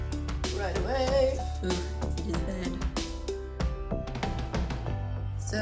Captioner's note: sing-song voice